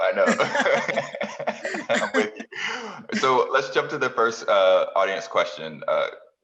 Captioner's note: laugh